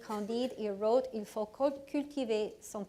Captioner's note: speaking foreign language